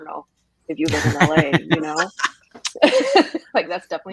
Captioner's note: everyone laughs